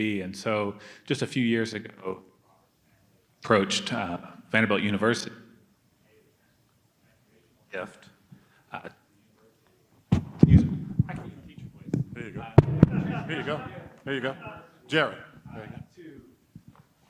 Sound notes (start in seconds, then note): 6.2 microphone cutting out; 12.8 audience member laughing; 13.6 speaking quietly